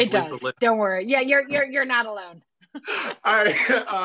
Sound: laughter

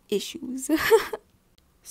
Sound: nervous laughter

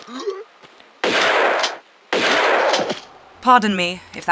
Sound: boom boom

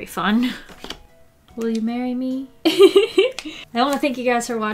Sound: laughs

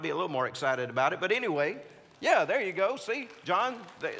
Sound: congregants applauding

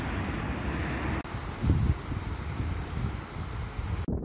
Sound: water sounds

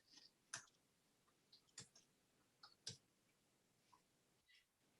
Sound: faint clicking noise

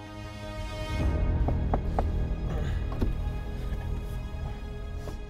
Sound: Jacobs knocks on window

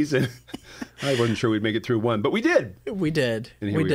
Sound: laughter

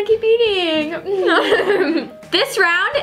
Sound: laughs

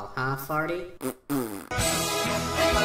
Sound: agreeable fart noise

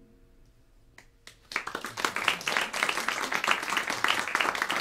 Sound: applause

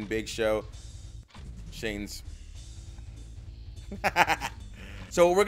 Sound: laugh

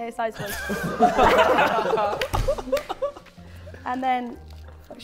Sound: Sidemen laughing

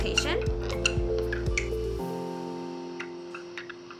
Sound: bat squeaking

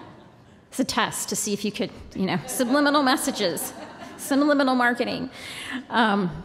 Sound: laughter

